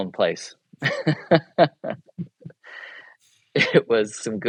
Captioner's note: laughs